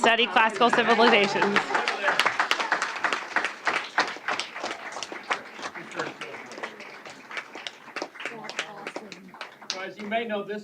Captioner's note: applause